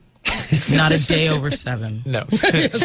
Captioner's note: laugh; laughs